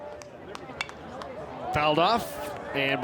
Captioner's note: bat taps